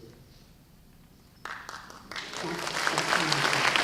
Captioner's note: applause